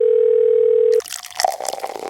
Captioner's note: phone rings; drink flowing